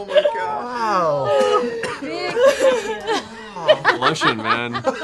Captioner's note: laughter